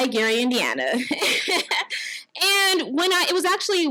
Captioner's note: laughs